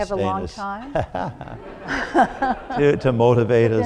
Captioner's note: laughter